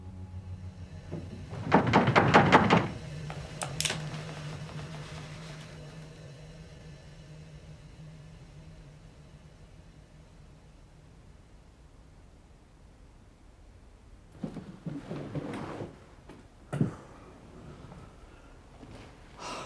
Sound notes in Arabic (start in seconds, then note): 1.1 قعقعة